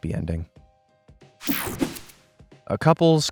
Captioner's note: graphic whooshing